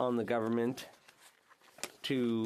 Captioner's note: speaking French